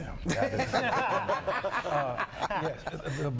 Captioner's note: laughter